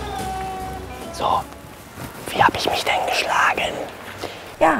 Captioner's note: flüstert